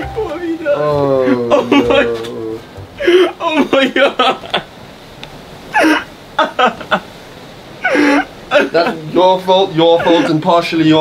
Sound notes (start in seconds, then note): 0.7 still laughing; 6.4 laughing